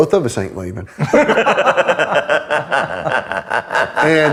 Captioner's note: laughs